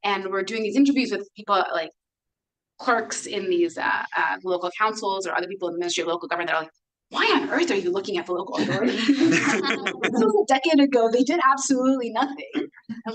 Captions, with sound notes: and we're doing these interviews with people like clerks in these local councils or other people in the ministry of local government that are like, "Why on earth are you looking at the local authority?" (everyone laughs) This was a decade ago. They did absolutely nothing.